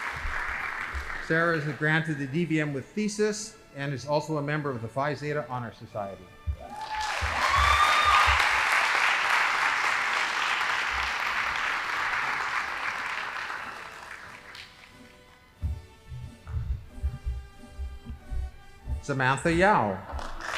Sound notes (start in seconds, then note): 6.6 audience applauding; 14.0 band playing